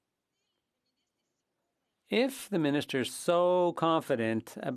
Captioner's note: speaking French